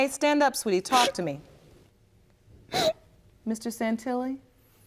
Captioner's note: sobbing